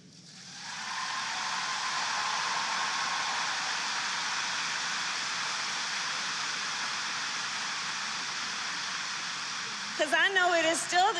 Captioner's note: applause